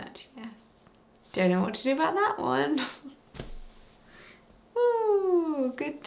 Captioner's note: chuckling